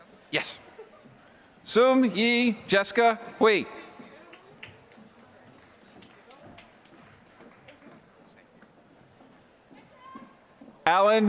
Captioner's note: applause